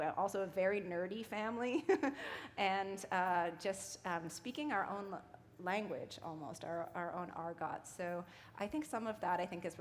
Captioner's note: chuckle